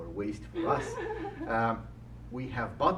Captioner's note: chuckles